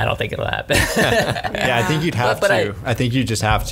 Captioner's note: laughs